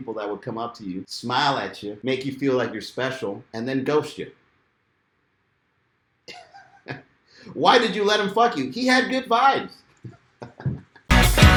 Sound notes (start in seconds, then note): 6.6 laughs; 10.4 laughing